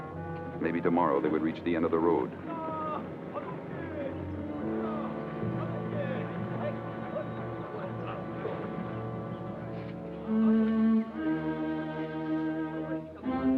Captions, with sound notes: Maybe tomorrow they would reach the end of the road. (people chattering) (suspenseful music)